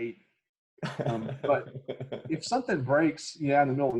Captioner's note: host laughs